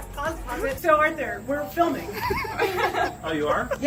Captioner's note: all laugh